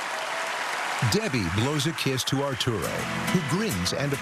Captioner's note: cheering and applause